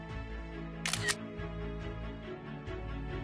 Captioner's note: camera shutter sound